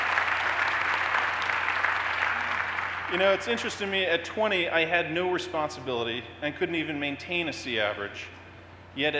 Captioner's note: cheers and applause